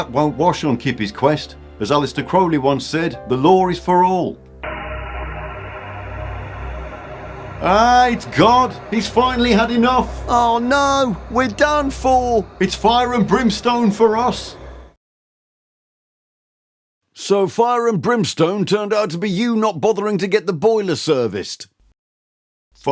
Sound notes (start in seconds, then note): 5.0 loud grinding noise